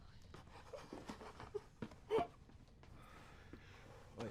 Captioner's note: crying